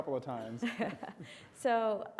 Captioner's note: chuckles